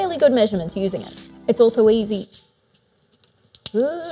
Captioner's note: groans